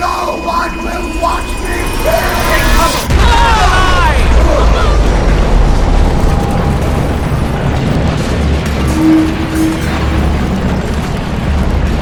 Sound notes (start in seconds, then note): 3.2 group exclaiming; 3.2 implosion crashing